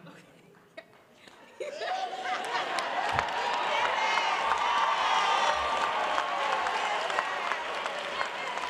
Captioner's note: applause